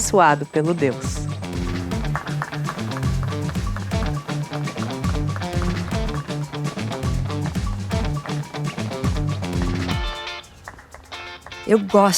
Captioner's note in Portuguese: palmas